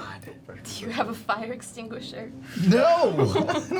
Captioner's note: laughs